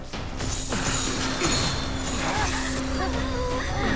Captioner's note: suspense music; magic crackles; all gasps